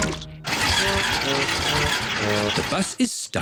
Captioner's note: engine stalls